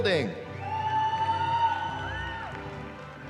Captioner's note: cheering